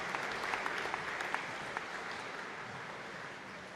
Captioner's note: applause